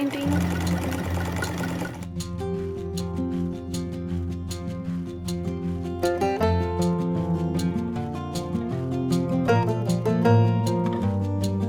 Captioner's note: sewing machine noise